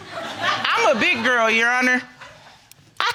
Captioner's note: audience laughing